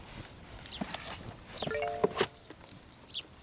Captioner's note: phone chimes